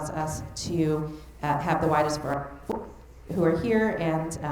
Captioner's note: mic cutting out